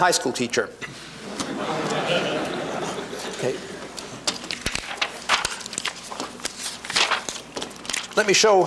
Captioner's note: laughter